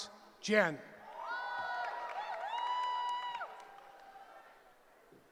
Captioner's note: cheering